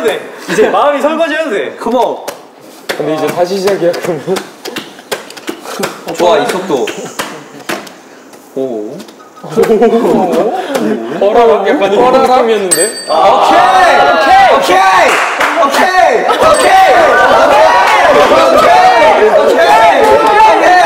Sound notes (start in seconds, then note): 7.5 slipping; 17.4 laughing